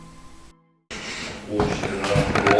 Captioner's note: static playback transmitting